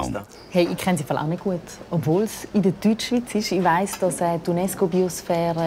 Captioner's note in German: Schweizerdeutsch